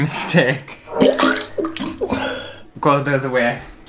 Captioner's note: vomit